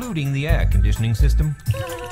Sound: shivering

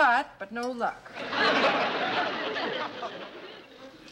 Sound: laughter

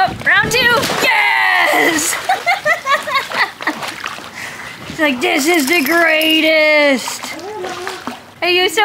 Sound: laughs

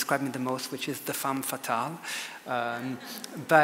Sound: audience laughs

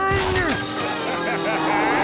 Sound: laughing

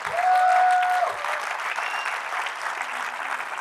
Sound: cheering

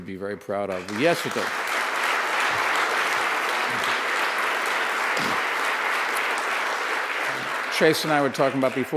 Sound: applause

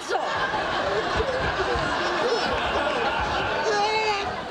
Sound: audience laughing

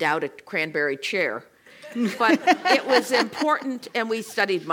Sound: laugh

